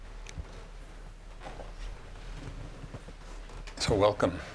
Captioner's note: none